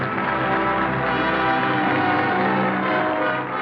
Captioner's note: applause